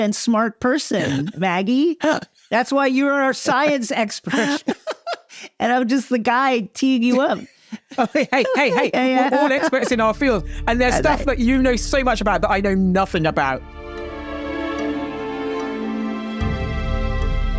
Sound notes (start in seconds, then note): 4.3 both chuckling; 14.4 suspenseful music